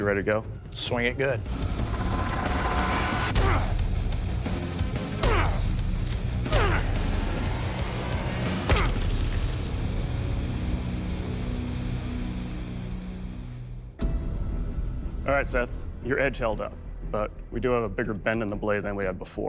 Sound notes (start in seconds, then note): 2.9 rock music; 5.2 grunting